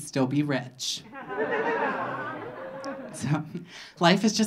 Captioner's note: audience laughing